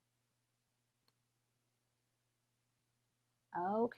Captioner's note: silence